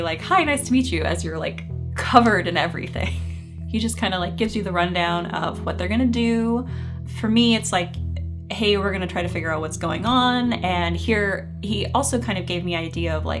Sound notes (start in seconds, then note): 3.2 chuckling